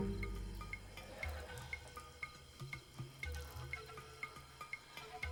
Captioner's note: trickling